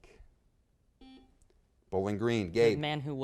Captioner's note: buzzer beeps